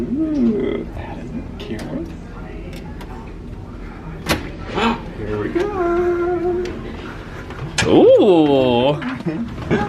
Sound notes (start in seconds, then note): 4.4 door latch clunks